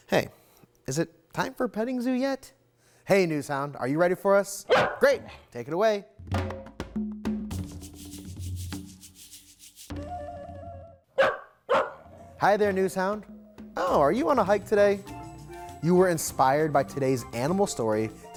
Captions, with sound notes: Hey, is it time for Petting Zoo yet? Hey, Newshound, are you ready for us? Great. Take it away. (upbeat music) (Newshound barks) Hi there, Newshound. Oh, are you on a hike today? You were inspired by today's animal story